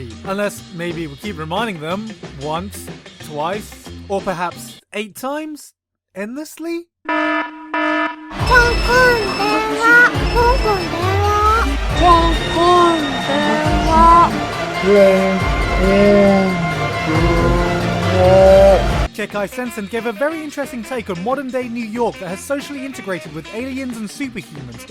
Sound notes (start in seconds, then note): 7.1 klaxon warning; 8.3 little Japanese girl speaking Japanese I can't understand